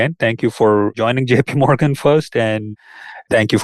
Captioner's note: laughs